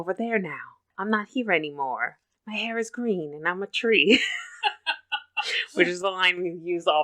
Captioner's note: laughs